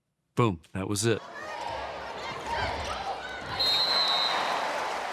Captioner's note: people chatting; whistle blowing